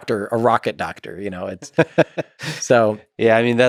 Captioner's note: Lex laughs